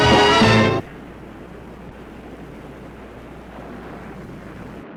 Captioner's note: waves crashing